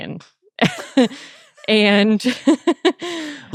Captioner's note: laughing